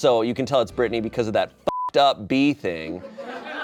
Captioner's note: beep; audience laughing